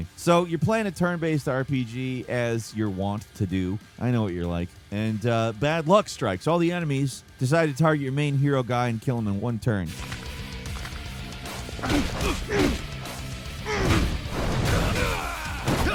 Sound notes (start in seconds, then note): 11.6 fighters grunting